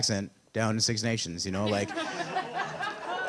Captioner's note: audience laughter